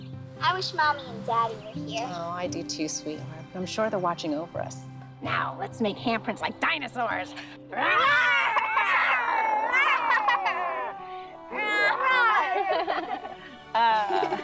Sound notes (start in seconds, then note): 7.8 all growling